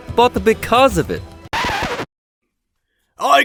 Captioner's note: crowd noises stop / record needle screech